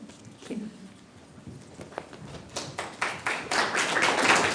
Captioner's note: applause